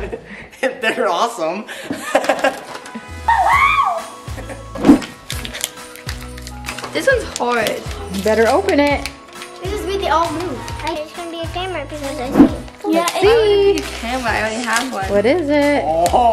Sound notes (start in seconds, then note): 0.9 laughing; 3.6 squealing; 5.0 paper crinkling